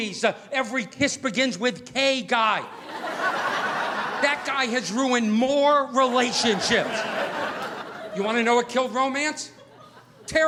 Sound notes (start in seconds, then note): 2.7 audience laughing